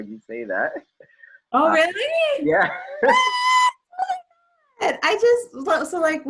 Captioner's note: laughs; screams